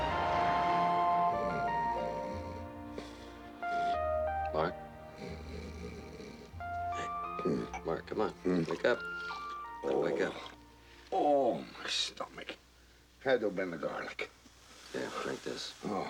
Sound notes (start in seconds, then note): 4.6 snoring; 8.2 snoring